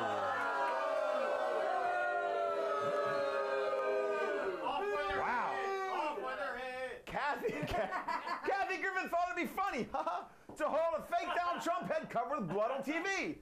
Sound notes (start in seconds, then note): 6.7 audience booing